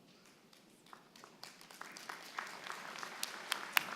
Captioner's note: applause